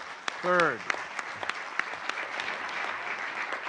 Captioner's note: applause